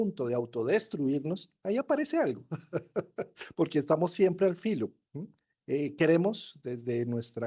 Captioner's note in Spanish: risas